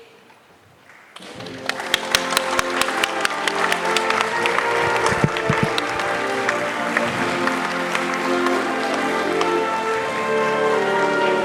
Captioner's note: applause